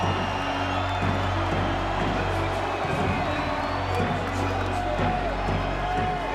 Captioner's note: crowd cheering; dramatic music; dramatic music drowns out announcer speaking